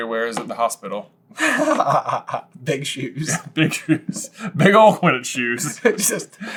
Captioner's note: laughs